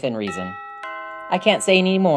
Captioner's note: door bell rings